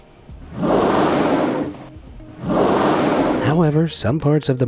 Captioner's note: whale blows